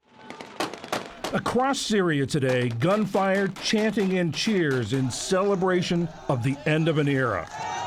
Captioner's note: voice-over